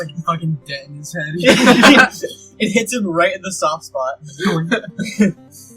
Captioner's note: laughter